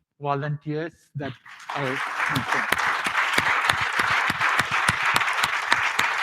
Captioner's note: applause